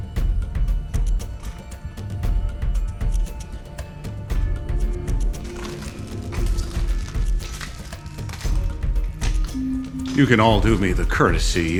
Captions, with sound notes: (anxious drumbeat) (glass crunching) You can all do me the courtesy